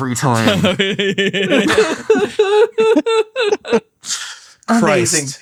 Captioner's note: laughs